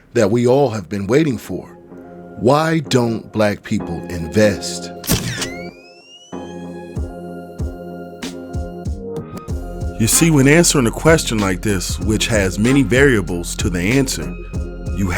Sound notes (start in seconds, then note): 5.0 camera clicking; 7.4 gentle upbeat music